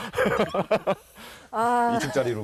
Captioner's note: just laughing